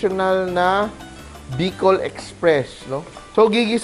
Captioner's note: sizzle